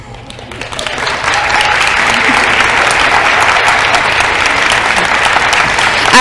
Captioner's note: applause